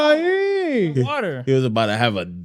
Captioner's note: non-english Speech